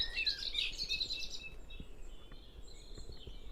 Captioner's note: birdsong